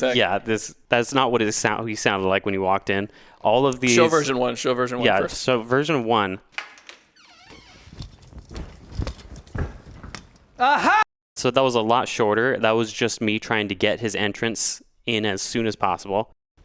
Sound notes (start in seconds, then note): 6.5 door creaks; 7.7 footsteps plod